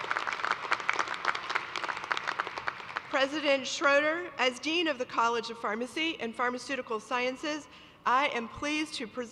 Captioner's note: applause